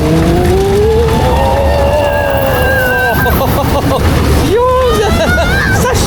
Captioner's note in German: schreien